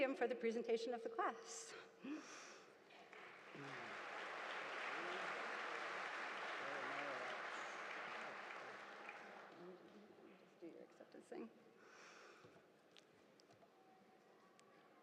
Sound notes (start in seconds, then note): 3.0 audience applauding